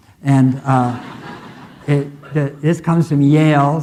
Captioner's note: audience laughing